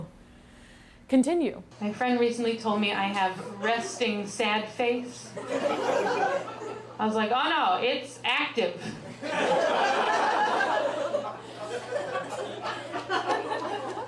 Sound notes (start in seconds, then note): 7.2 audience chuckles; 11.1 audience laughs